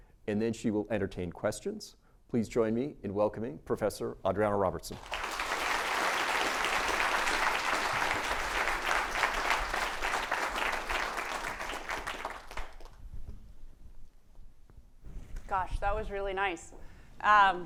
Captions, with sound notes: And then she will entertain questions. Please join me in welcoming Professor Adriana Robertson. [APPLAUSE] - Gosh, that was really nice.